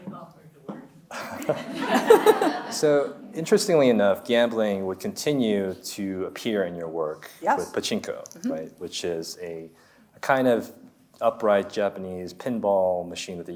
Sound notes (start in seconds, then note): 1.2 audience laughs; 2.0 laughs